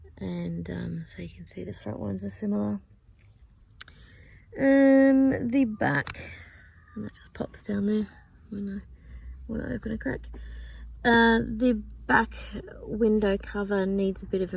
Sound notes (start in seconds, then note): 5.2 magnets click together